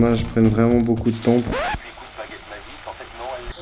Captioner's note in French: La radio fonctionne